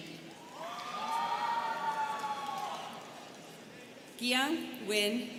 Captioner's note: students cheering